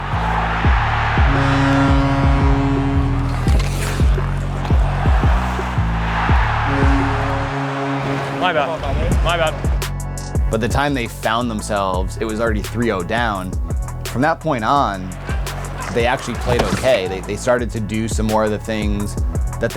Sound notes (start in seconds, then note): 0.3 crowd cheers; 1.6 horn blares; 5.6 crowd cheers; 7.2 horn blares